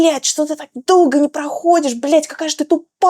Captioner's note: speaking in foreign language